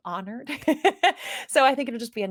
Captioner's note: laughs